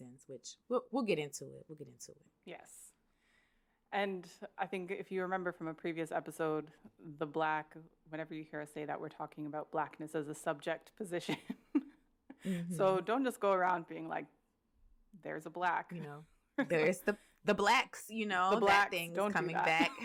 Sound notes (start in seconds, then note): 11.4 laughs; 19.4 laughter